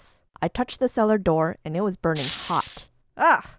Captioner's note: sizzle